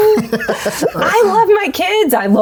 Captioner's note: laughing